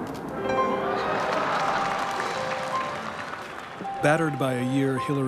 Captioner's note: applause